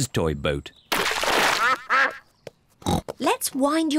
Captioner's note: ducks quack; snorts